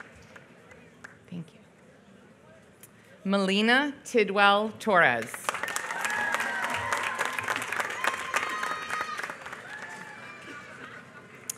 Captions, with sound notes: Thank you. Mein Tidwell Torres. [APPLAUSE]